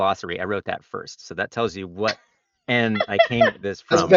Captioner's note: laughs